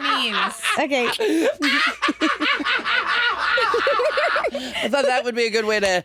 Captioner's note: all laughing